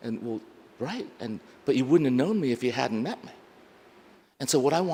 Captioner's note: none